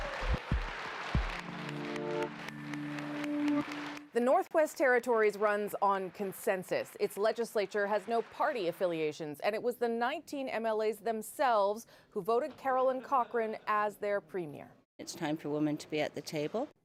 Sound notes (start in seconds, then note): 5.3 applause